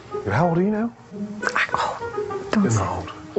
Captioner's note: whispering